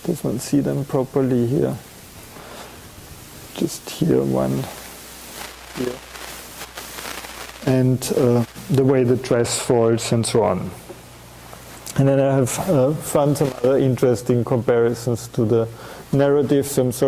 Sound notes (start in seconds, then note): 6.7 audio static